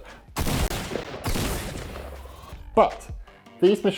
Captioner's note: gun shots